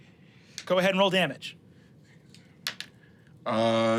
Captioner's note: dice rolling